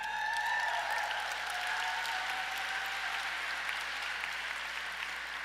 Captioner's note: audience cheers and applauds